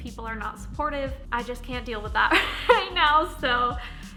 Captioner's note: chuckles